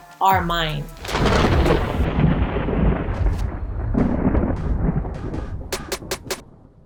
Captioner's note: thunderclap